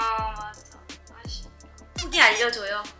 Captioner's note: sob